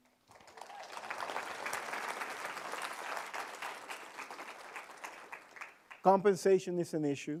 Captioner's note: applause